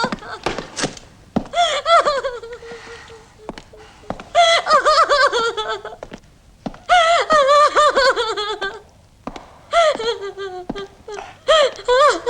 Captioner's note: crying is heard